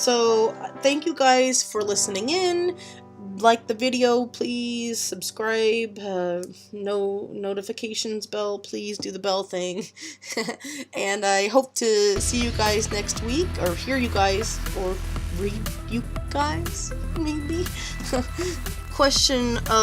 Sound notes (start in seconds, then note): 9.8 laughs awkwardly; 18.0 laughs at self